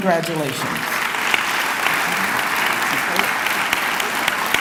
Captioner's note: clapping